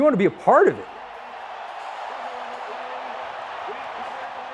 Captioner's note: crowd cheering